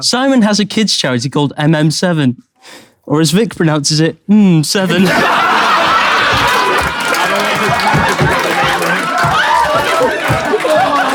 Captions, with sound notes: Simon has a kids charity called MM7, or as Vik pronounces it, "Mm, 7." [people in room laughing and clapping]